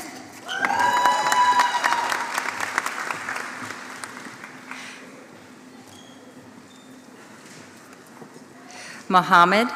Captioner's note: applause